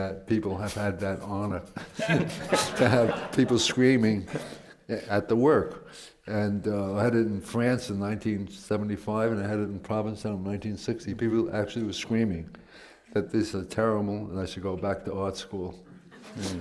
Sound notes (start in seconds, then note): 1.8 laughter